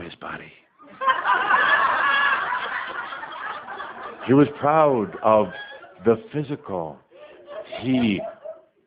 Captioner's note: audience laughing while Tobias displays Cauldre’s bicep